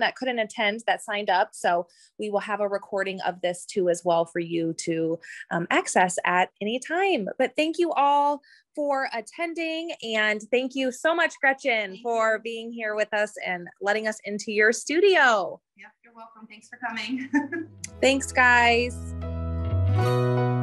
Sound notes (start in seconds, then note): 17.0 laughs; 18.7 outro music